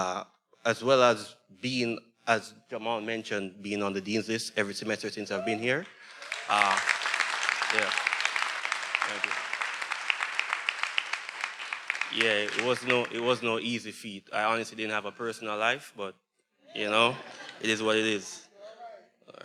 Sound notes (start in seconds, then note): 5.8 attendees cheering; 5.8 everyone applauding